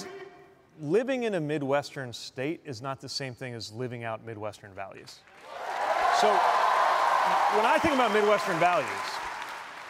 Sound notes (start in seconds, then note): 5.3 cheers and applause